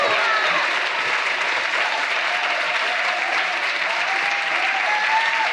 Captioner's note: audience cheering; audience applauding